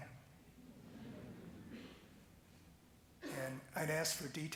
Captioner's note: gentle chuckling